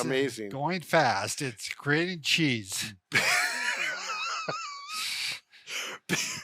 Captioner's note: laughs